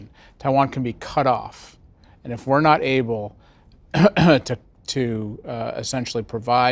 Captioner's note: cough